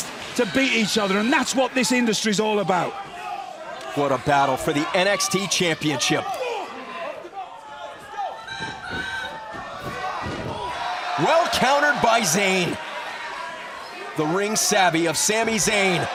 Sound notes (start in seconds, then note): 8.7 crowd cheering